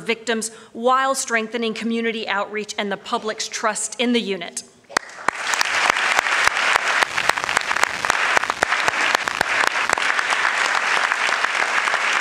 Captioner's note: applause